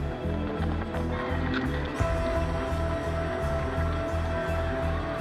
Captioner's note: camera clicking, audience cheering